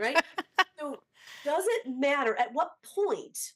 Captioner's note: laughs